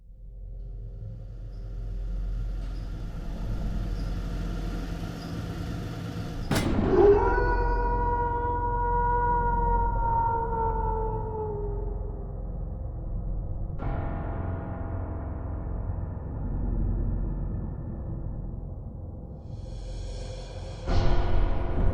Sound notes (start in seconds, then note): 0.6 film reel droning; 6.5 logo clanks; 6.7 wolf howling; 13.9 tense music